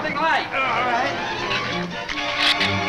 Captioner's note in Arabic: تأوه; ثرثرة الزبابة